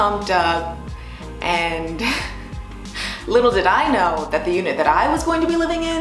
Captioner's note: laughs